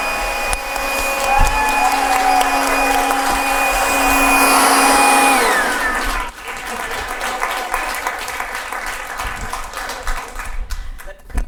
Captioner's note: audience applause can be heard